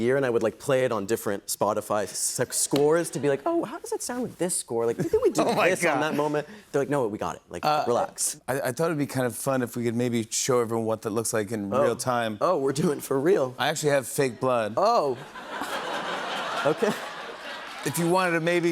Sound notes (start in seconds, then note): 15.2 laughter